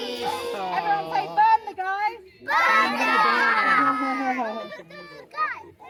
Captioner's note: chanting: burn the Guy, burn the Guy